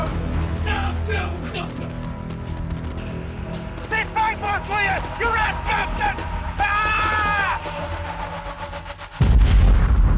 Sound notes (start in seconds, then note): 6.6 screams